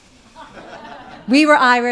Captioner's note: audience laughing